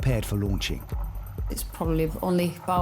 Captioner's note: lifeboat engine whirring